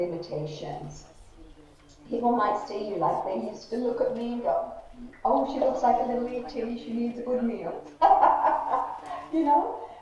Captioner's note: laughs